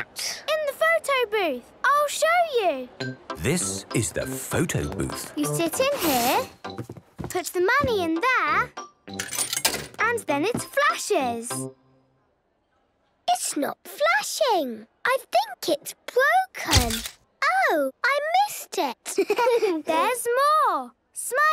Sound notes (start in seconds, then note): 9.2 coin tumbling; 17.0 camera clicks; 19.1 giggling